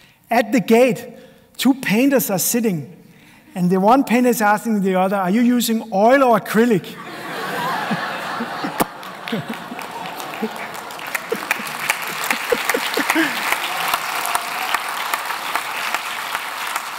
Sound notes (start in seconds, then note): 7.0 laughter; 8.7 applause